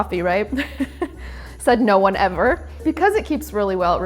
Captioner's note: laughs